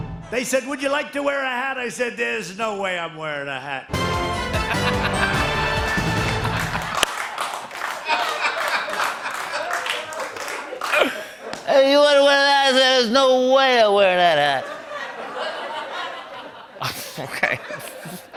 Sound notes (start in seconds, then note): 4.6 laughter; 7.0 laughter and applause; 14.5 laughter; 14.5 chuckling